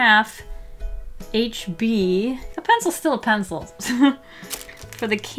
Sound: light chuckle

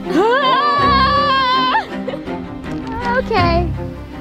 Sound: yells in stress

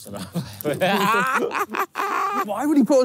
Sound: laughing

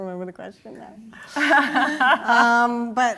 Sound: laughter

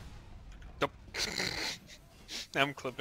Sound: suppressed laughter

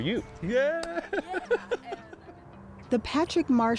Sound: laughter

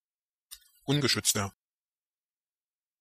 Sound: fast Pronunciation

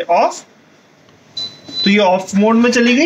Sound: beep

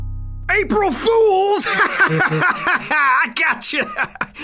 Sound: laughs

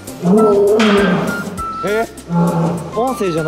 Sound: hearing sudden crying

